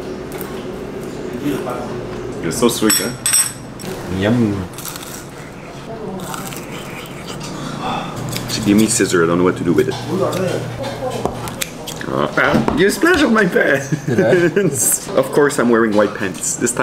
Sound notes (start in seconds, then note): 5.2 sighs